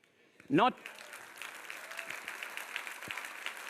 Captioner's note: audience applauds